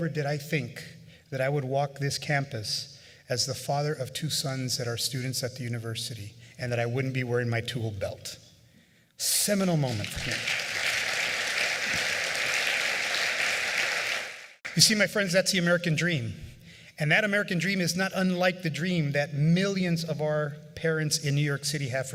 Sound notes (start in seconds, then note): 12.1 applause